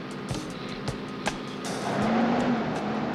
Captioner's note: engine sputtering